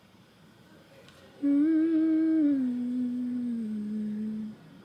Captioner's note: humming